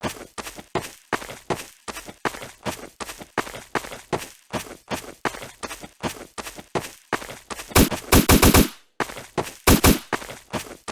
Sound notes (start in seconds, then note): 0.0 footsteps; 7.8 shots